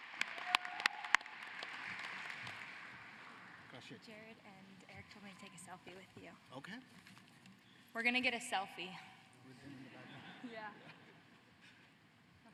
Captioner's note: applause